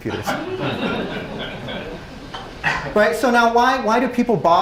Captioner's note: laugh